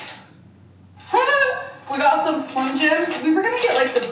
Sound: laughs

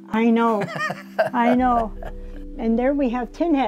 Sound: laughs

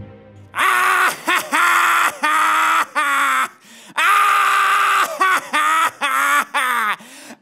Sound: laughing

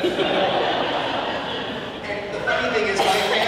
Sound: audience laughing

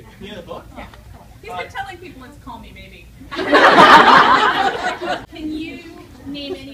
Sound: audience laughter

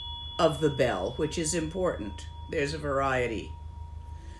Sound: rings bell

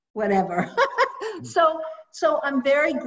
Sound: laughs

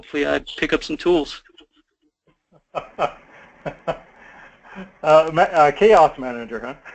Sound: laugh

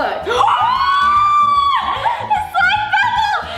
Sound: screams

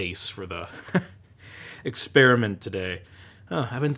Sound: chuckles

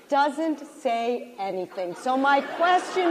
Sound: laughter

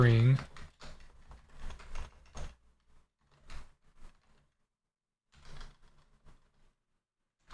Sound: typing

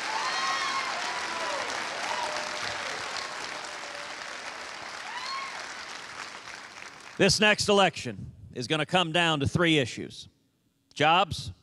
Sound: cheers and applause

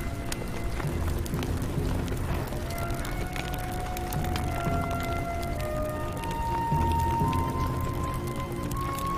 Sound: fire crackling

